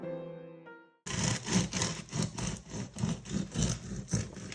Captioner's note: bread crunching